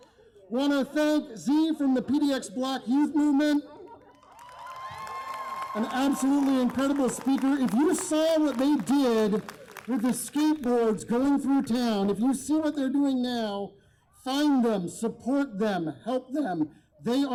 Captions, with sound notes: Want to thank Z from the PDX Black Youth Movement, [applause] An absolutely incredible speaker, if you saw what they did with the skateboards going through town, if you see what they're doing now, find them, support them, help them they